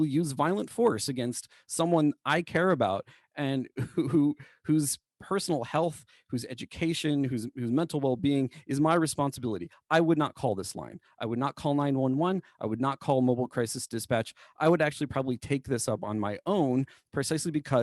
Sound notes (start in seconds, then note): 3.7 laughter